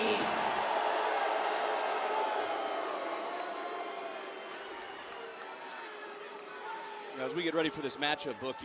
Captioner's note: crowd cheers